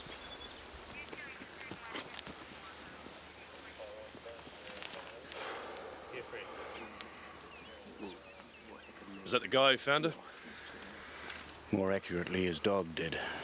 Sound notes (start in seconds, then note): 1.5 police radio chattering